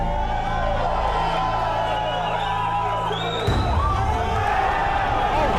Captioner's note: crowd cheering